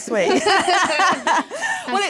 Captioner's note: laughter